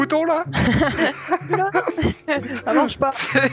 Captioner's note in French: rires